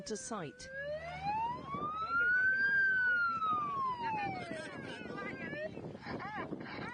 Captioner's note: Coastguard siren wails